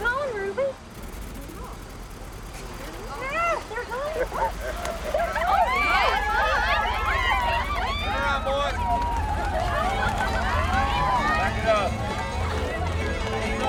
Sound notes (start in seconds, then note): 0.0 engine revving; 5.8 women cheering; 10.8 festive music